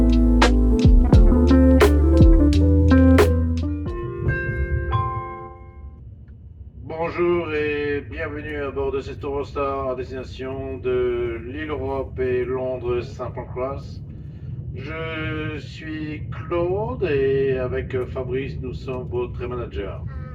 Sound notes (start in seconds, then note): 3.9 train announcement chime